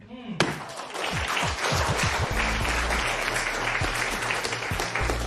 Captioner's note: applause